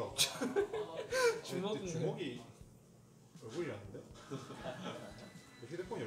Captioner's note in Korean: 웃음; 웃음